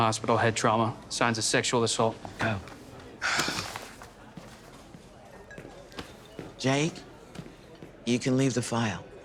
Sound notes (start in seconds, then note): 2.4 sighs